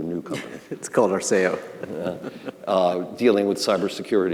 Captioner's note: both laughing